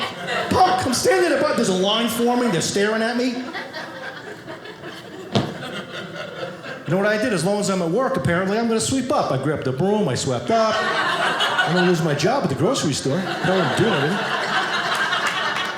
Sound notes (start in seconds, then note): 14.3 audience laughing